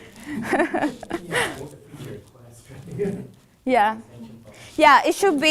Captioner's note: man speaking faintly off microphone